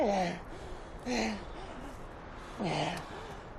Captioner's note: panting